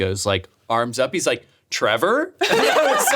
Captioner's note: all laughing